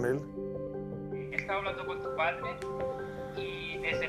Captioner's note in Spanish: Llamada telefónica